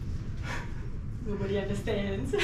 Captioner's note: sighs